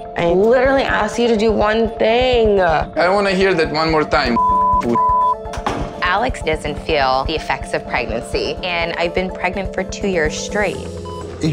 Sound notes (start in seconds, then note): 4.3 beep; 5.4 door slams